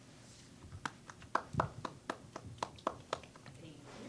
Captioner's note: scattered applause